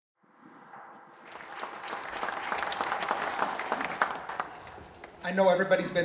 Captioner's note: applause